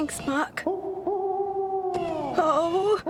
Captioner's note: owl Hoots